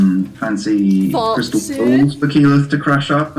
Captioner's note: posh voice